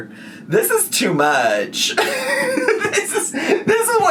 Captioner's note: laughing